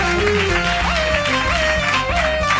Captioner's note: applause